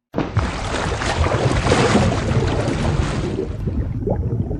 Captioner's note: water splashing loudly